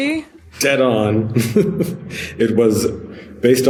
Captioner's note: laughs